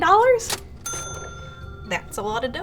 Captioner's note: bell dinging